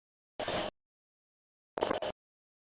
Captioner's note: static